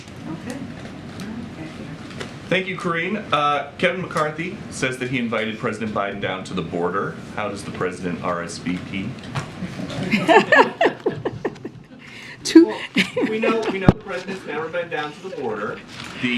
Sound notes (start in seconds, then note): 10.0 laughter; 12.5 laughs